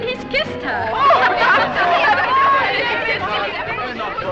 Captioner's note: all exclaim and laugh